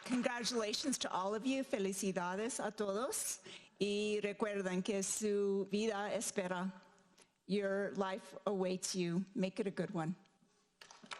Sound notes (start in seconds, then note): 1.7 speaking in foreign language